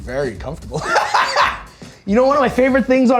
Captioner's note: laughs